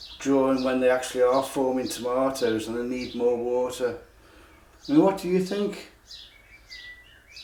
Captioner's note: bird song